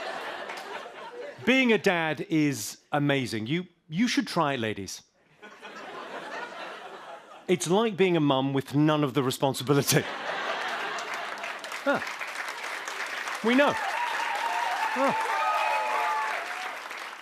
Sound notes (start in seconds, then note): 0.0 laughter; 5.2 light laughter; 10.4 applause; 14.2 cheers and applause